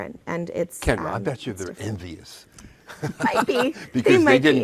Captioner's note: laughs